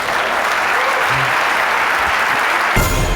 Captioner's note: applause